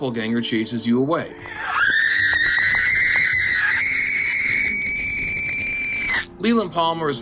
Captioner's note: screams